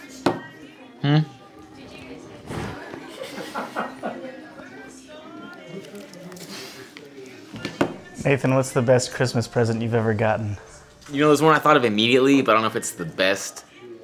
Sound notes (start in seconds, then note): 0.3 laughs through her wine; 1.7 the mic rub against hair; 1.8 laugh